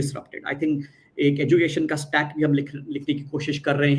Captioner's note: non-english speech